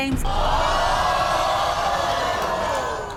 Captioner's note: hollering